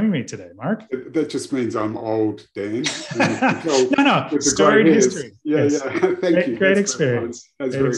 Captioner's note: laughters